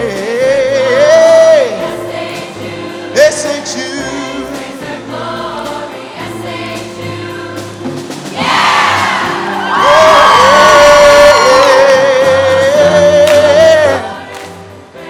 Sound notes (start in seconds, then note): 10.4 choir members cheering; 12.9 vocalizing